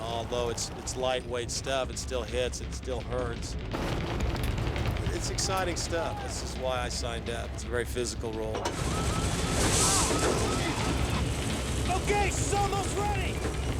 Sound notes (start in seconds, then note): 8.7 exclaims